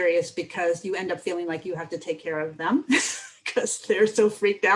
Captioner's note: laughter